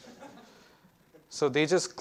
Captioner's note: students laughs